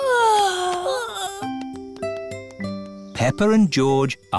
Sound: peppa and george yawning

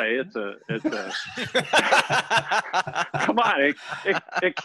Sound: laughter

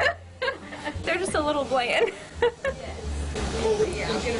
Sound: laughter

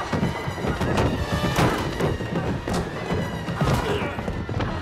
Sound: thudding, groaning

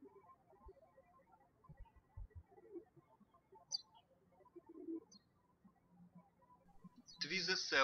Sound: birds chirping

